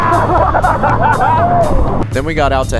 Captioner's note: all laugh